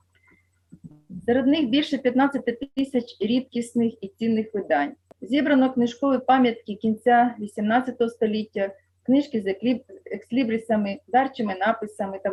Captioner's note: foreign Language